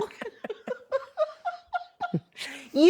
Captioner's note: laughing